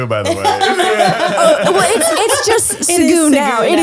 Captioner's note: laughing